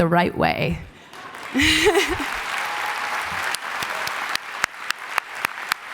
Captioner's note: applause